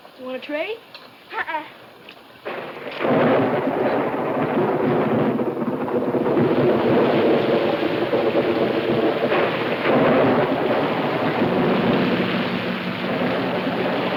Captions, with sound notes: Wanna trade? - Uh uh. (thunder claps)